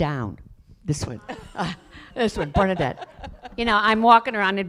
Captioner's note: laughter